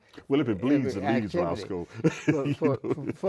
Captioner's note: laughs